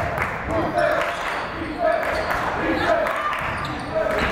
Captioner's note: yelling